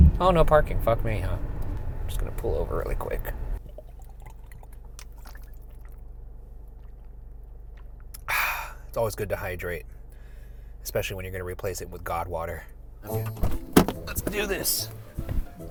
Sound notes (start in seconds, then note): 4.0 water bubbling; 13.0 mischievous music